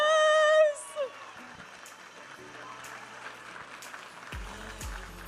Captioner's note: audience applauding and cheering